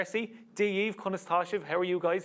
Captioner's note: speaks Irish